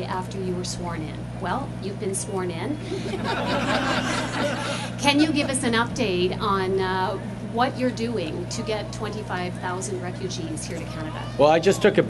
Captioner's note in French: rires